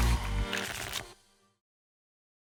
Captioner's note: tickets shuffling